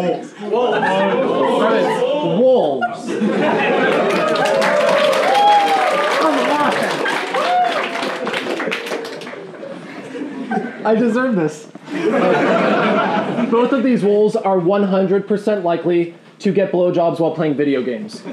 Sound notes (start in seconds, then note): 2.9 laughing and clapping; 11.8 laughing